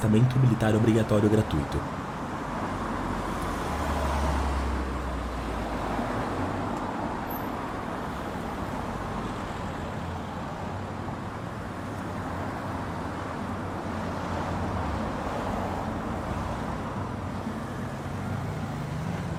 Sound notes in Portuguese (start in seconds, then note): 3.3 Carros passando